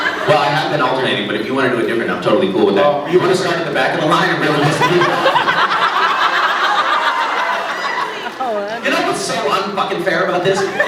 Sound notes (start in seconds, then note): 0.0 laughs; 5.8 laughs